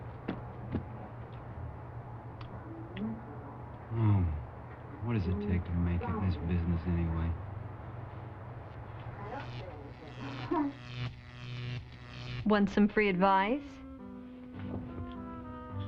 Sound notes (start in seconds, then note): 8.8 electric static